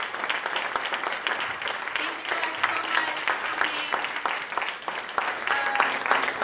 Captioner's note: applause